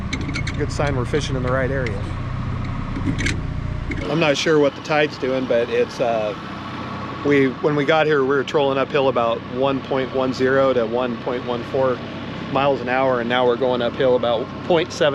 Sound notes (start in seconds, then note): 4.0 boat engine idling